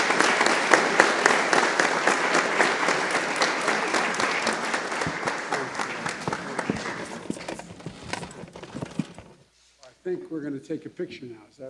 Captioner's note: applause